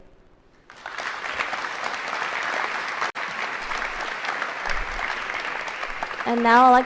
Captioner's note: applause